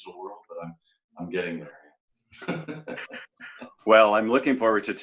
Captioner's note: chuckles